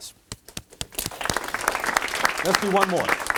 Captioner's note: applause